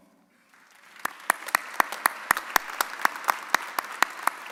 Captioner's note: audience applauding